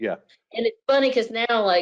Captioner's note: laughs